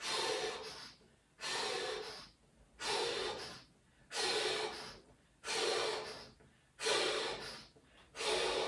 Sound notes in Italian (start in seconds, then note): 0.0 sbuffare; 4.4 sospiri; 4.4 suono gutturale